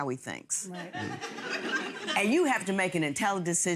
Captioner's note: audience laughs